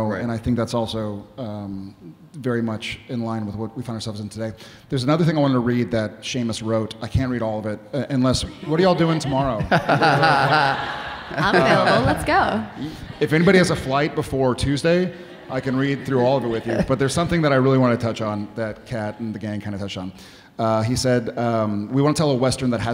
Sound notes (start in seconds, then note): 8.6 audience laughing